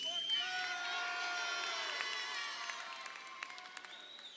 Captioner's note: crowd cheering